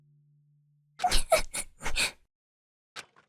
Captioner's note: sniffling